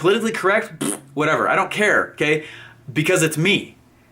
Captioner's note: blows raspberry